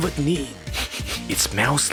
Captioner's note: sniffs